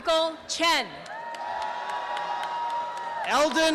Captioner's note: applause and cheering